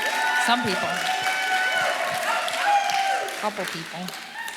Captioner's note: audience applauding